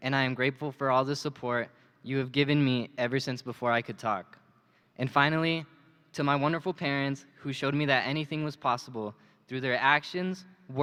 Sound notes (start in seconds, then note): none